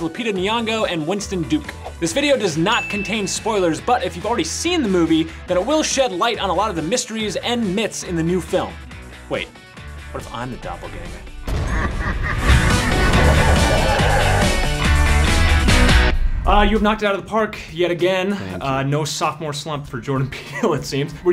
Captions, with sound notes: Lupita Nyong'o and Winston Duke. This video does not contain spoilers, but if you've already seen the movie then it will shed light on a lot of the mysteries and myths in the new film. Wait, what if I'm the doppelganger? (evil laughing) (upbeat music) You've knocked it out of the park, yet again. - Thank you. - No sophomore slump for Jordan Peele, it seems.